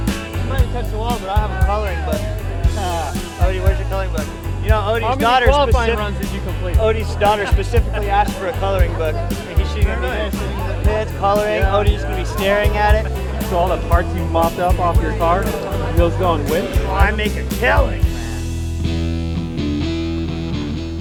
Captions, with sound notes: - I might have touched the wall but I have a coloring book. (laughing) Odi where's your coloring book? - You know, Odi's daughter-- - How many qualifying runs did you complete? - Odi's daughter specifically asked for a coloring book. She's gonna be there sitting in the pits, coloring, Odi's gonna be staring at it. - So all them parts you mopped up off your car? Those going winched? - I make a killing, man! (rock music)